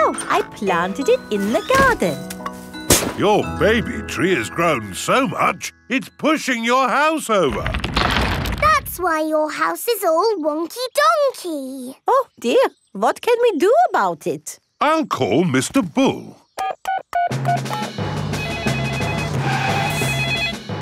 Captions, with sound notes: so I planted it in the garden. Your baby tree has grown so much, it's pushing your house over! That's why your house is all wonky donkey! Oh, dear. What can we do about it? I'll call Mr. Bull. (BEEPING) (PHONE RINGING)